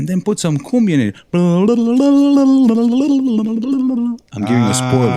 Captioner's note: humming